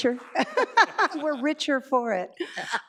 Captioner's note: laughs